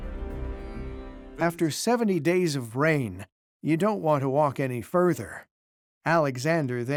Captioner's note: in German